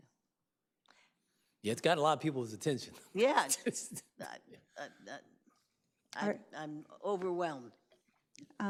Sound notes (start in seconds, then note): 3.2 laughs